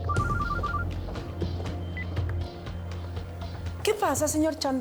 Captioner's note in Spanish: Suena celular